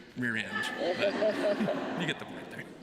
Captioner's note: laughter